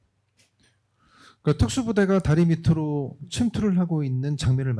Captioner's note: speaking korean